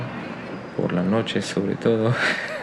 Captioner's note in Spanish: ríe